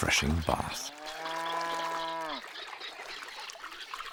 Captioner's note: cow moos